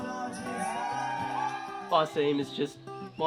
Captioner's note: crowd cheering